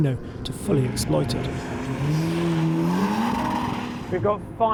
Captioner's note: car engine revving